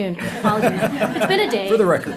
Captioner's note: participants laughing